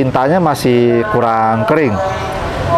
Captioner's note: praying sound